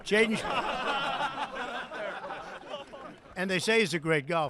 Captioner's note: laughter